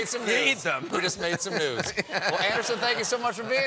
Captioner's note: laughter